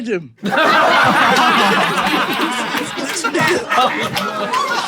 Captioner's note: people in room laughing